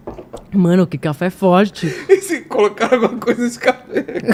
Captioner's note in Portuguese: risadas